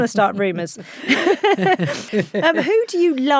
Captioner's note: both laughing